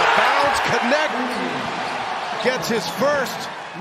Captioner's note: cheers and applause